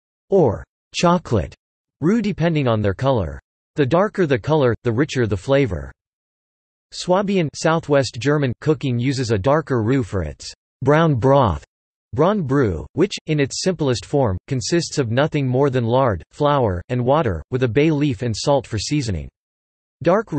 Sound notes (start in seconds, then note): 7.4 southwest German